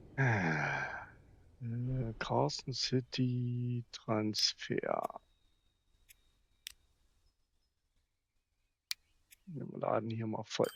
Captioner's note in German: seufzt